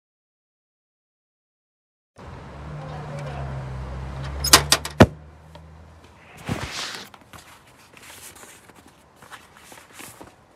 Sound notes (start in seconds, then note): 0.3 faint traffic, voices; 4.4 letterbox thudding; 6.2 envelopes shuffling